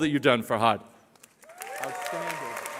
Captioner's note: cheering